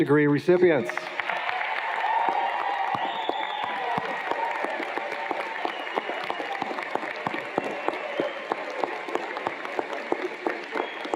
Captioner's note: cheers and Applause